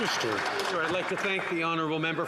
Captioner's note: some Applause